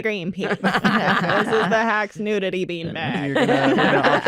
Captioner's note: laughter